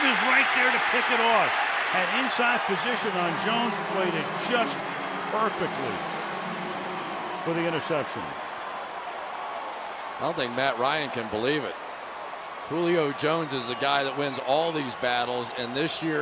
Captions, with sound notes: And Talib is right there to pick it off! And inside position on Jones. Played it just perfectly for the interception! [cheering] Nothing Matt Ryan can believe it. Julio Jones is the guy that wins all these battles.